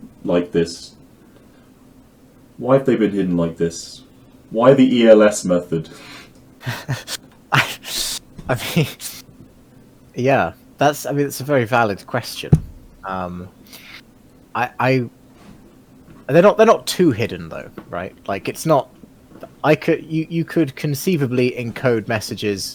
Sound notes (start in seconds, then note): 6.6 chuckling